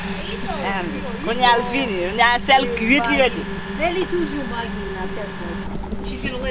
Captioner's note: speaking in Creole